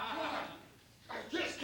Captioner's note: laughs